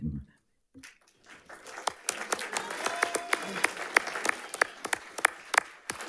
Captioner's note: audience applauding and cheering